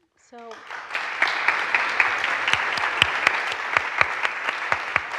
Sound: audience and applauding

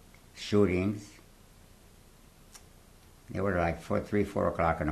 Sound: pauses for 3 seconds

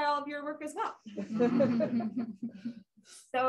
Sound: laughter

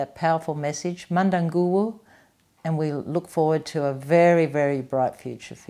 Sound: non-english speech

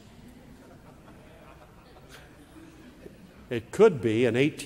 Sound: laugh

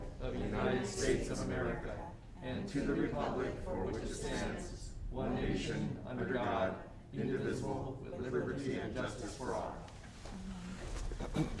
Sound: reciting the pledge of allegiance

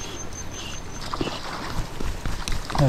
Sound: water splashing

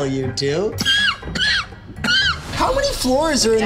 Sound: coughing

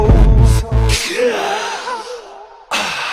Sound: inhale; exhale

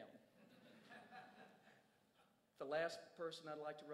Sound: crowd chuckles

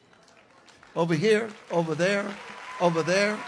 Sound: congregation cheers

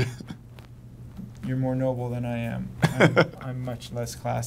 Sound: laughs; laughs

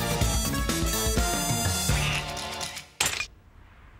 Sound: quacks

